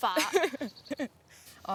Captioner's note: laughter